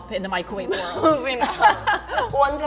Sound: laughs

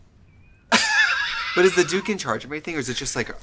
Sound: laughs

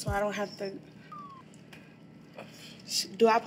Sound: slide whistle chimes

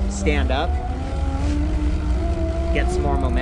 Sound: bicycle motor roaring

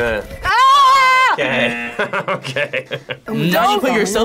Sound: screams; laughs

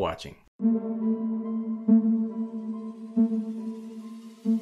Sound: outro sound effect

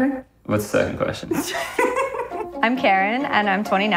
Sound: laughs

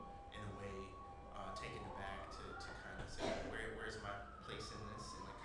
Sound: voice Low

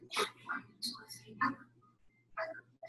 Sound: whispers

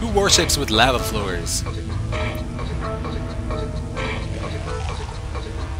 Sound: monster retching

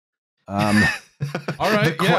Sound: laughter

